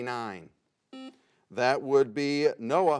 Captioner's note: buzzer sounds